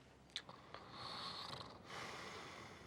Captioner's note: snoring